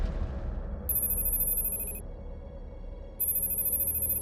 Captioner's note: electronic beeping